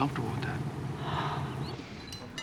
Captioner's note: sighs